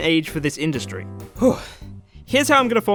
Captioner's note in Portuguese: suspiro